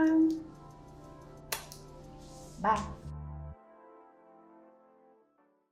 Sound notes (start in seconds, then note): 1.1 kiss